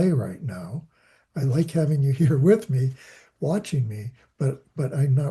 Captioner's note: laughing